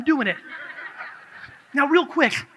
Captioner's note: audience laughs